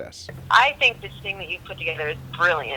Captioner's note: voiceover